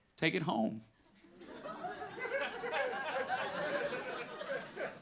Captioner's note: audience laughing